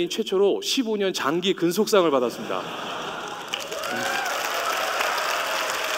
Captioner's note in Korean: 박수 소리